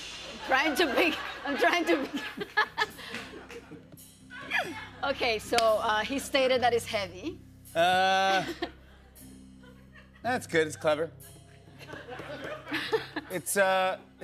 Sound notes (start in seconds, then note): 2.5 laughs